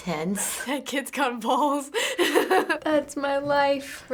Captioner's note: laughs